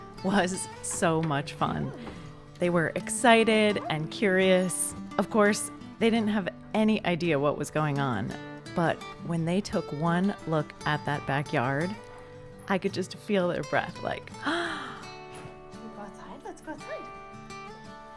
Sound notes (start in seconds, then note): 14.4 gasp!